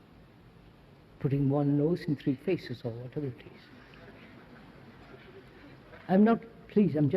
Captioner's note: laughter